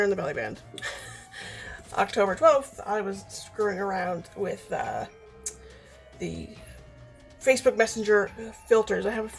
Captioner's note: laughing